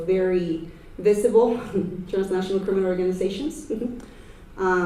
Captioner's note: chuckles